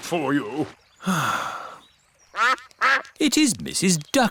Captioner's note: sighs; quacking